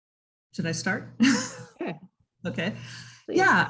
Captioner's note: laughs